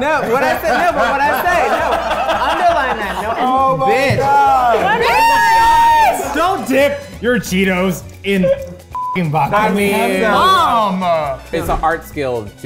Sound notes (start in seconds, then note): 0.1 everyone laughing; 8.9 beep